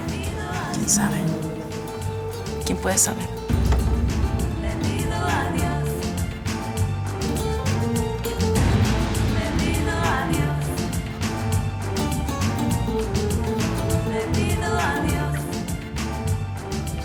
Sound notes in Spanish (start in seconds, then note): 2.9 Susurrra